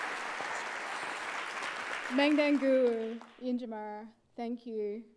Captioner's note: applauds; speaks indigenous language